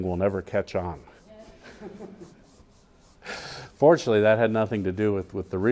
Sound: laugh

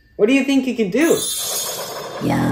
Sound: Wanda chimes

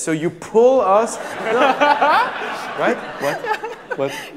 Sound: laughter

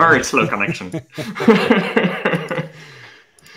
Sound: laughter

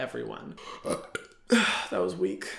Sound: belches

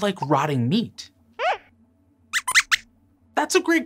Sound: squeaks squeaks

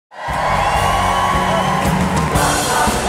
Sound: cheering

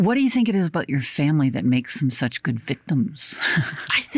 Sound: chuckles

